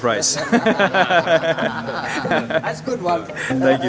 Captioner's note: laughing